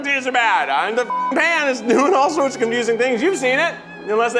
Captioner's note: beep